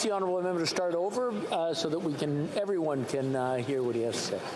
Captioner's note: speaking French